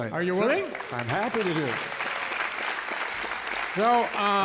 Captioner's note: applause